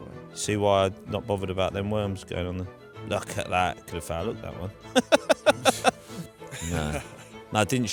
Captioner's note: laughs